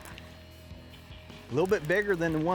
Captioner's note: fishing rod reeling